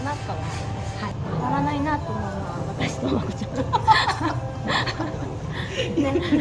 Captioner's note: laughter